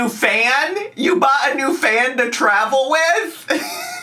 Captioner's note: laughing